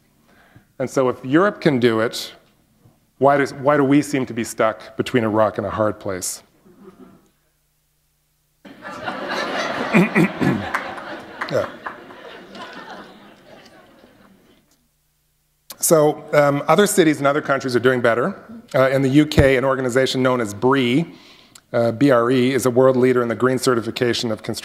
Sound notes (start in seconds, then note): 8.7 laughter